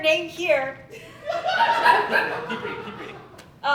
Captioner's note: audience Laughing